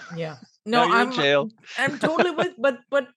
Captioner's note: laughs